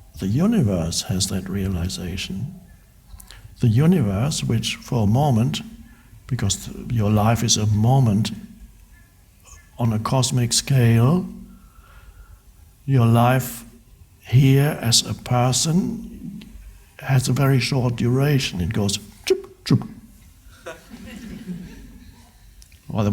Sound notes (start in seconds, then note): 19.4 mimics whooshes; 20.6 crowd laughs